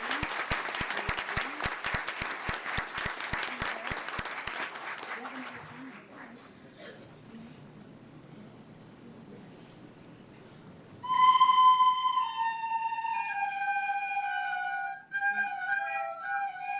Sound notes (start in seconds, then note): 4.2 applause